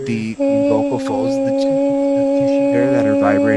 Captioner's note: lady humming